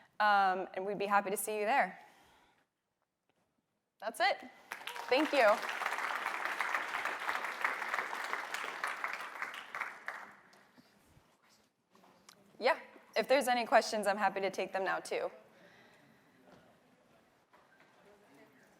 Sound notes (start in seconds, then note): 4.6 applause